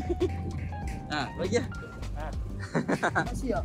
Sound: laugh; laugh

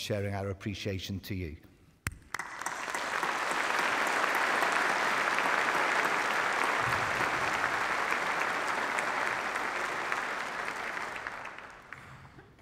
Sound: applause

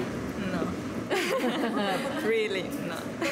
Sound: both laugh

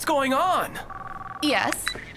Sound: phone rings

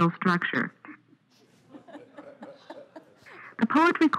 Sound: laughter

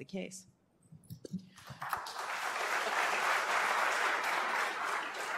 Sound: applause

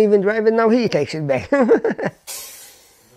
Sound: laughs

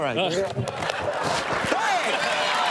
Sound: laughter

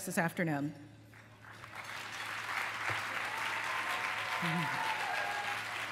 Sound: applause

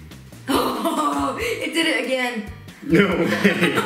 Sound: laughs

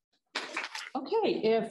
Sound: applause

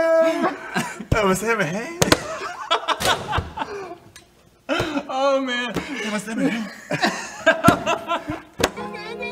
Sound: laughs

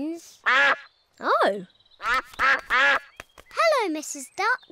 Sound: all quack

